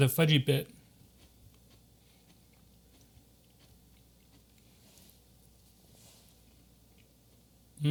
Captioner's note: crunching